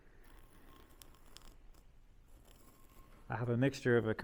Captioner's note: pencil rubbing